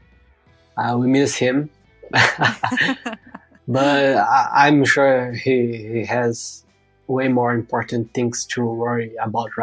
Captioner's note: <Laugh>